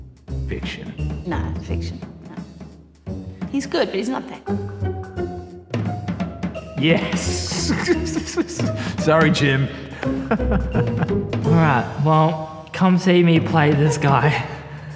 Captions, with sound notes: Fiction. Nah, fiction. Nup. He's good but he's not that good. Yes! [Laughing] Sorry Jim! [Laughing] Alright. Well. Come see me play this guy.